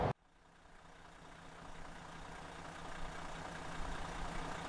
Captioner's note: engine runs